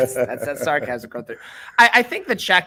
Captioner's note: bell ringing; laughing